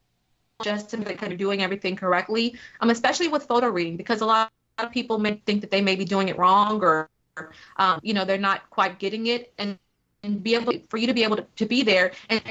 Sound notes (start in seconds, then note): 0.6 technical interference